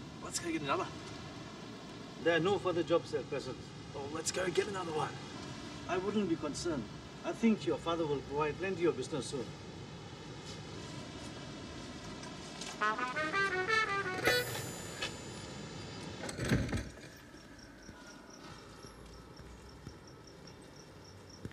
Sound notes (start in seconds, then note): 12.7 upbeat music; 17.0 frogs chirping